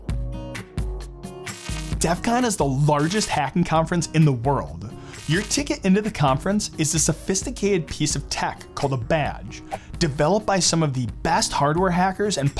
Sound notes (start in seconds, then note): 0.1 upbeat music; 1.5 electric buzzing